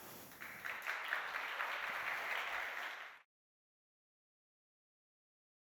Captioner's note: applause